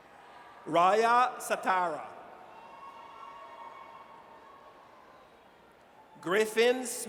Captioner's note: audience cheers